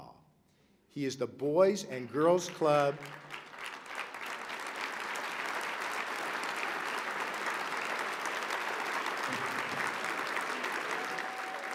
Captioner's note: applause